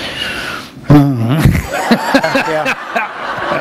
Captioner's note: laughter